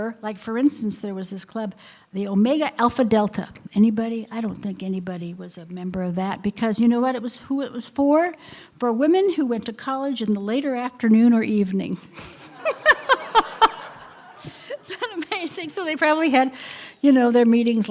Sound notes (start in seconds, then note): 12.2 laughter